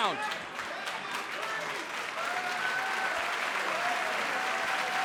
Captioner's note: crowd cheering